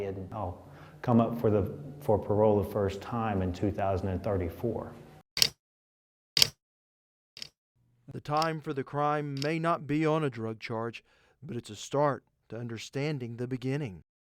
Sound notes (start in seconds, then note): 8.2 clock ticking